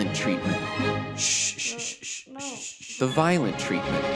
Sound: shushing

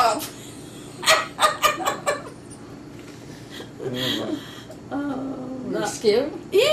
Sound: laughs

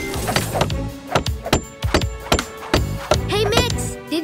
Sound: squeaking

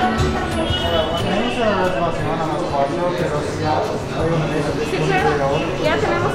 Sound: speaks in foreign language; hostess speaks in foreign language

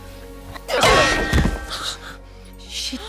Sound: clangs

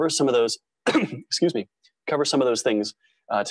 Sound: cough

